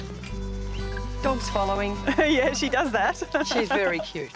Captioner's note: laughs